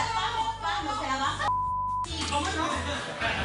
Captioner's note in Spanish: Bip